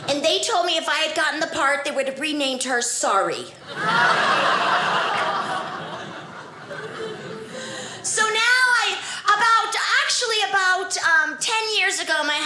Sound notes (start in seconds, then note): 3.6 audience laughing